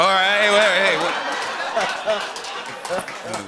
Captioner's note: laughter